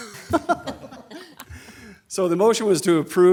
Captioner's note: laughing